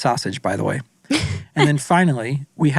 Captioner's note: laughs